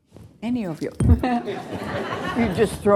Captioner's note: laughter